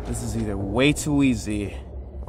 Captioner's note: none